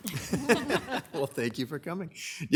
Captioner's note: people chuckle